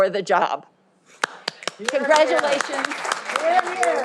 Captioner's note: all applauding